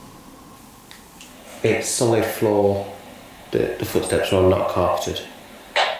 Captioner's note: walkie talkie